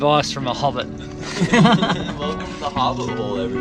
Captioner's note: laughter